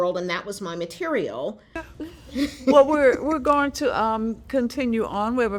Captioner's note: laughter